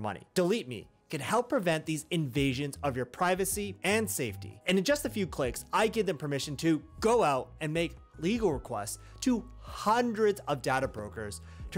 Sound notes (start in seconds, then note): none